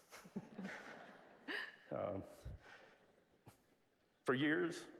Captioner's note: laugh